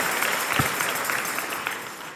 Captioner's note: applause and cheers